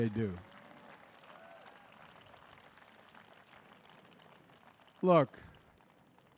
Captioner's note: applause